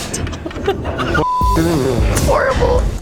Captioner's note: beep